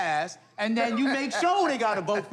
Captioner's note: laughing